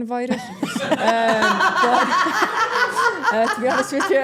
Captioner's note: everyone laughing